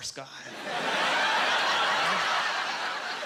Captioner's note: laughing